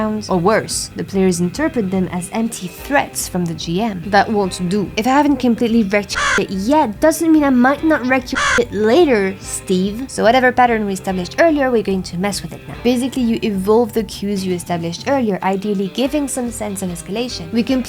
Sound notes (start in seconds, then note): 6.1 caw; 9.1 caw